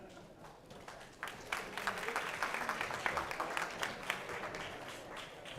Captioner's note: applause